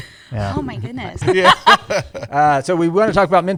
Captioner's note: laughter